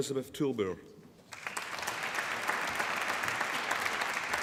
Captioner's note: applause